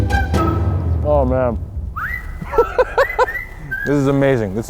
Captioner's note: laughs